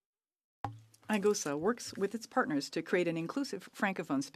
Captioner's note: speaking French